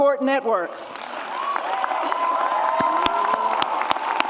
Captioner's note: audience cheers